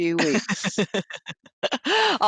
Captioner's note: laughing